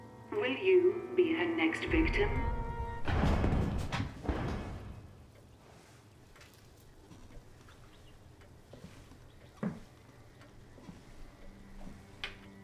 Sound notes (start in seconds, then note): 3.5 dramatic music; 8.8 footsteps tap